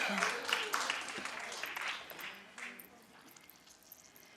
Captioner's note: audience applauds